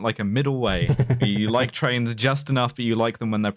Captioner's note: chuckles